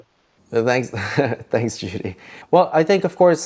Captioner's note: laughs